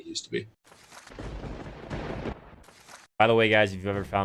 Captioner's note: lightning strike